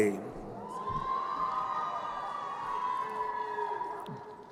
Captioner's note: crowd cheering